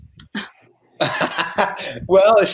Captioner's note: laughing